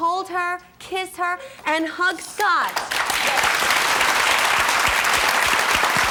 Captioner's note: audience applause